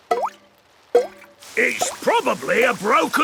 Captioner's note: water dripping